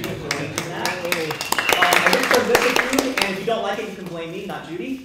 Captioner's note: applause